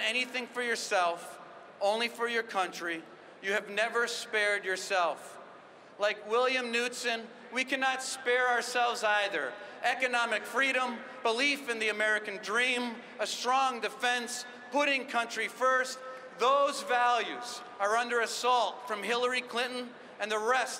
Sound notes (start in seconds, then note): none